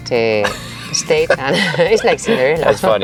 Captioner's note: speaks foreign language; laughs